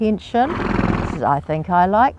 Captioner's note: horse snorting